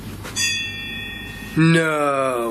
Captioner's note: bell rings